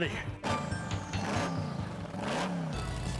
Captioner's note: engine revving